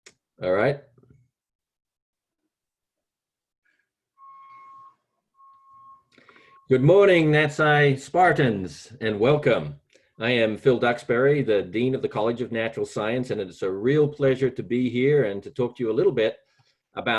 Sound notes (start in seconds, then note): 4.2 beeps